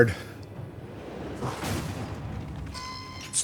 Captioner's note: gunshot; door creaks